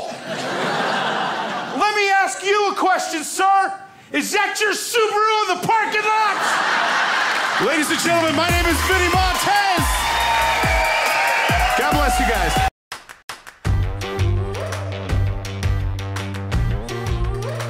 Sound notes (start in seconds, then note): 0.0 crowd laughs; 5.9 crowd laughs; 10.0 crowd cheers